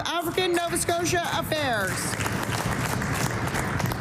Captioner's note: applause